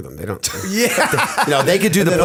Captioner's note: laughter